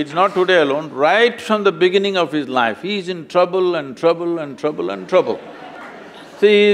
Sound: laughter

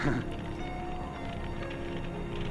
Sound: laughs

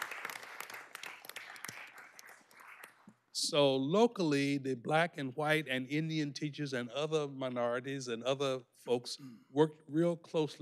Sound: applause

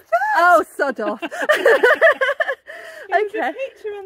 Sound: laughing

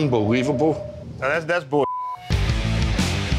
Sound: beep; rock music

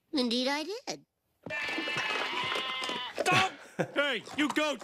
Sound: goat baaing

